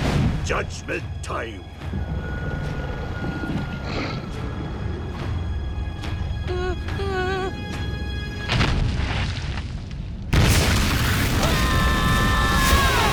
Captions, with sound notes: Judgement time. [moaning] [screaming]